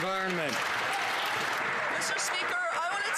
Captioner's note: some Applause